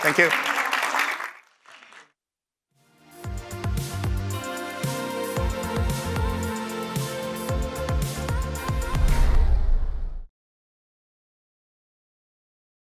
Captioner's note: applause